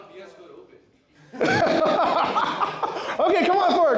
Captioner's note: laughter